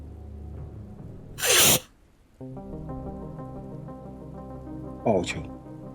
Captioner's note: monk inhales sharply